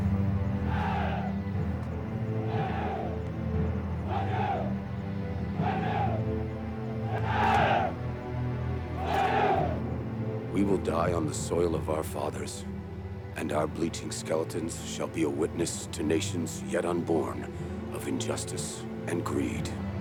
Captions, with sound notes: (crowds chanting) - We will die on the soil of our fathers and our bleaching skeletons shall be a witness to nations yet unborn of injustice and greed.